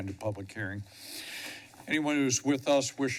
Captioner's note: sniffles